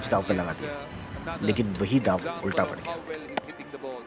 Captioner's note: Phone ringing